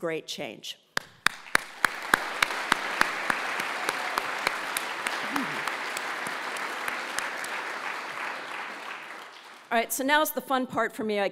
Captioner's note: applause